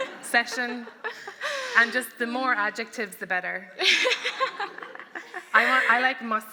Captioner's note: laughter; laughter